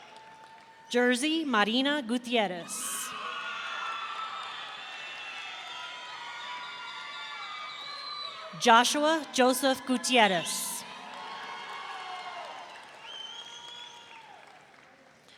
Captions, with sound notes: Jerzey Marina Gutierrez. (audience cheering) Joshua Joseph Gutierrez. (audience cheering)